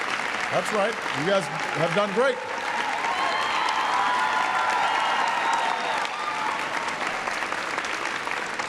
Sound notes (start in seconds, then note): 3.2 applause